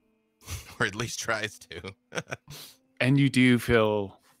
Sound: laughs

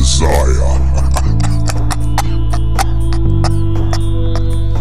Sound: laughter

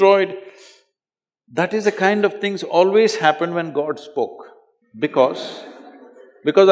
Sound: few Laugh

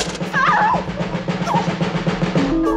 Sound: screams

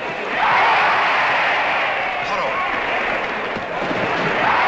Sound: crowd

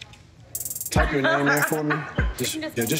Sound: laughing

